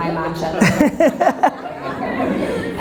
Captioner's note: Gary laughs